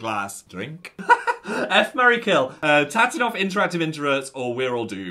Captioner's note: laughs